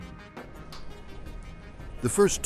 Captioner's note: desert wind